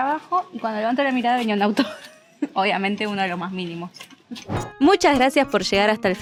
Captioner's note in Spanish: risas